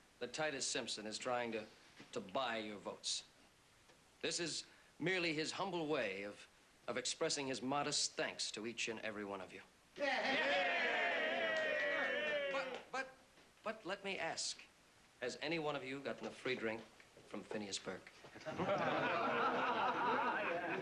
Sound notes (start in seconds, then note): 10.0 cheering; 18.4 laughter